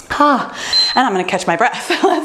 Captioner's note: bell dinging